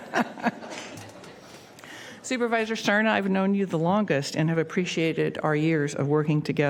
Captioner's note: laughter